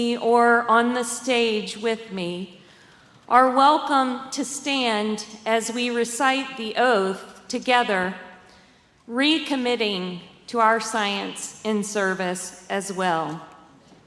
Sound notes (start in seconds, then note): none